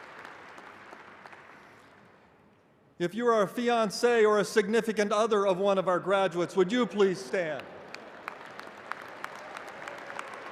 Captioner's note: applause